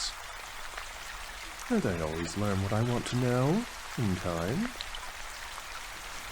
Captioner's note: quietly